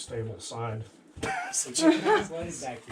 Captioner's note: laughing